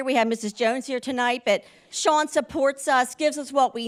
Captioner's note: none